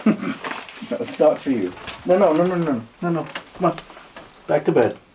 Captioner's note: chuckles